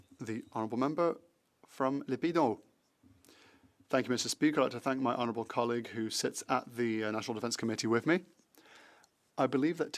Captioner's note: speaking French